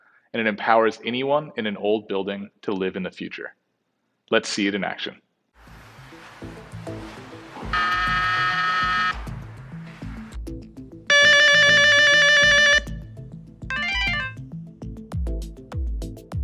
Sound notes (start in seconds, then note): 6.5 slow electronic music; 7.7 intercom buzzes; 11.1 intercom rings; 13.7 phone chirps